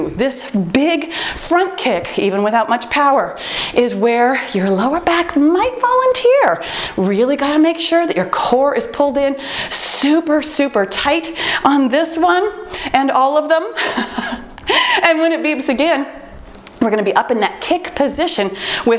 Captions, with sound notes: This big front kick, even without much power, is where your lower back might volunteer. Really got to make sure that your core is pulled in super, super tight on this one and all of them. [laughs] When it beeps again, we’re going to be up in that kick position